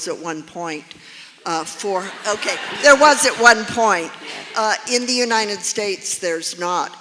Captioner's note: laughter